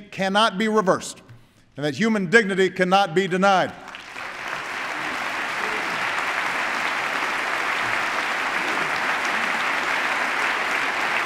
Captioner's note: applause